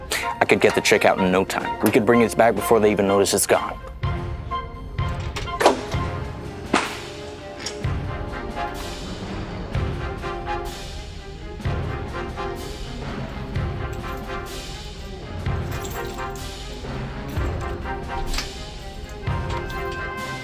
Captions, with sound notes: I could get the check out in no time. We could bring it back before they even notice it's gone. (lock rattles) (door unlocks)